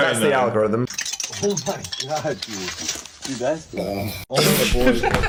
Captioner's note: icicles clinking; Dan and Phil laugh